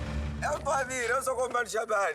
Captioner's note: Portuguese spoken audio